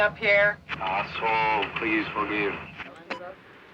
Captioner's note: man On Radio